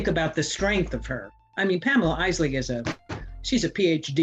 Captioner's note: hits table